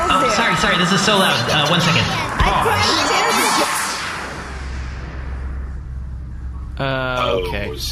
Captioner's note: powers off